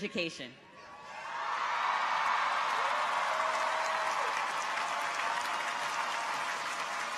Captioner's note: people cheer; audience applauds